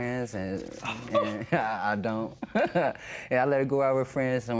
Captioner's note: scoffs